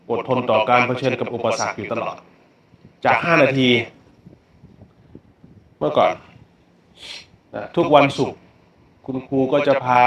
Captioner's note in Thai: เสียงสูดหายใจ